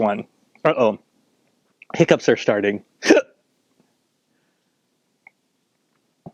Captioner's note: hiccup